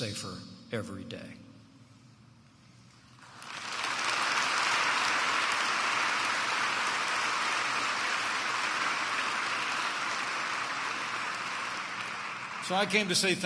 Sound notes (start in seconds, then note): 6.6 applause